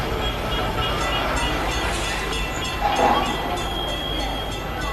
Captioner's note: tram bells